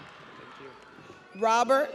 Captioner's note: audience applauds; audience cheers